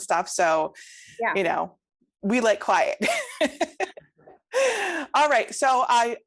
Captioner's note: laughs